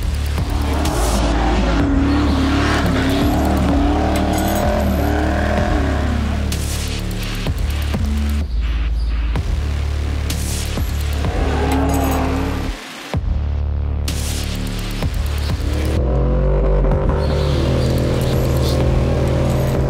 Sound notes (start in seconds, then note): 0.0 engine roaring; 10.0 engine roaring